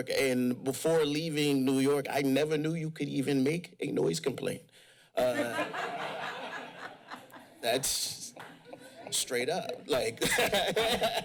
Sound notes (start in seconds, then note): 5.2 crowd laughs; 10.0 laughs